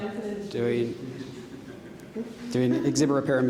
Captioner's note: audience laughing